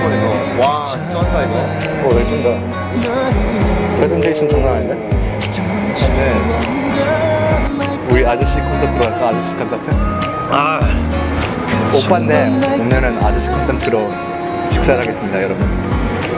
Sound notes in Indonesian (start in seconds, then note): 10.3 dengkuran orang tua